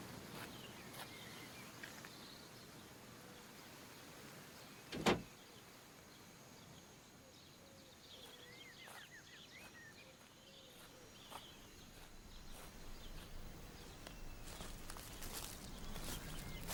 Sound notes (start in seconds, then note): 4.9 window closes; 7.4 owl calling